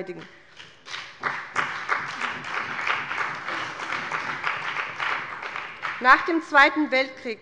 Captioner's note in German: Beifall bei dem BÜNDNIS 90/DIE GRÜNEN und der CDU